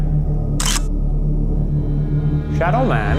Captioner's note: camera shutter clicking